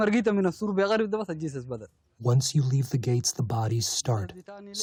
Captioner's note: through translator